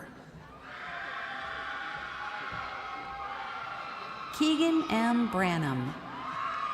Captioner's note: crowd cheering